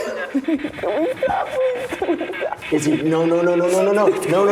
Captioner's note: Isabel weeping